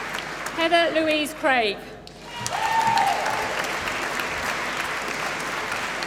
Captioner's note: applause